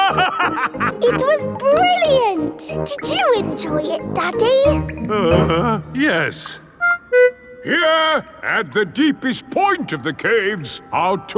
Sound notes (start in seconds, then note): 0.0 laughing; 5.0 groans